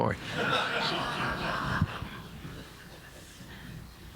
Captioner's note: audience laughing